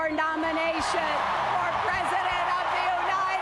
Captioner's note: cheers, applause